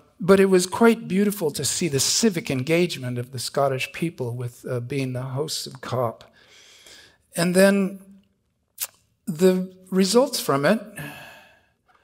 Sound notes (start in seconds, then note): none